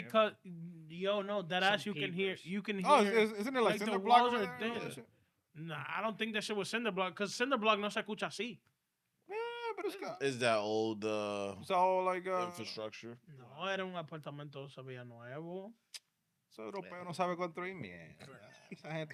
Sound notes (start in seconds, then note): 13.4 speaking In Foreign Language